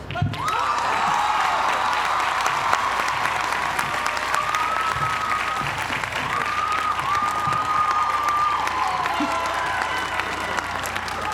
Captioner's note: applause